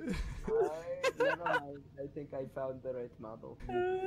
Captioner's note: laughter; talking in the background